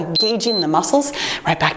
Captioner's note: timer beeps